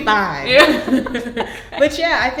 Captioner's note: laughing